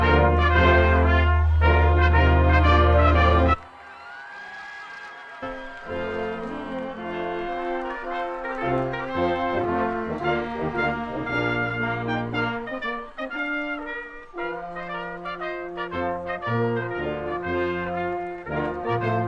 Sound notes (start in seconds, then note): 4.3 attendees cheering; 7.9 orchestral music